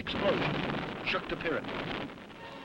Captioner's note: explosion blasts